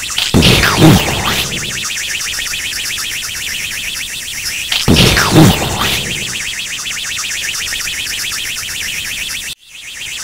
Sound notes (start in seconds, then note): 0.3 explosion; 1.9 rocket engine; 4.8 explosion; 6.7 rocket engine